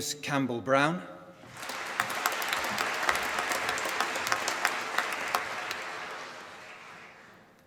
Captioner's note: applause